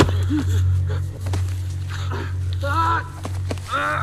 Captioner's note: shouts